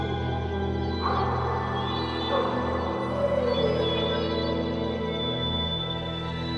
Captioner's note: Clementine whines and woofs; tranquil music; dog in distance crying